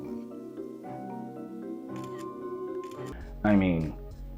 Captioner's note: shutter clicks